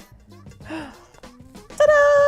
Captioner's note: gasps